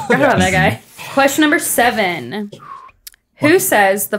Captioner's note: text scrawling